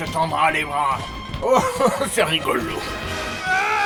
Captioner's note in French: rire démoniaque